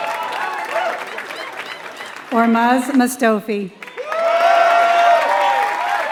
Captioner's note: applause